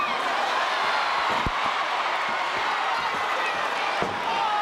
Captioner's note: audience cheers